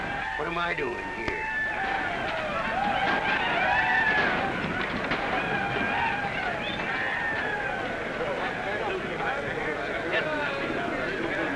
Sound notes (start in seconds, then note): 0.0 men whooping & chaos; 1.8 men whooping & chaos; 9.1 rioters quieting down